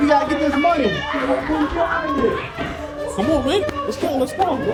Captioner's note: group exclaiming, yelling